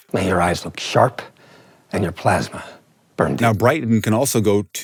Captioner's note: movie dialogue plays